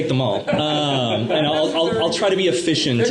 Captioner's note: laughter